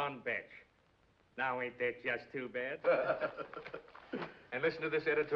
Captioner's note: man laughs